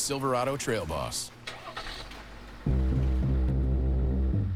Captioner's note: engine starts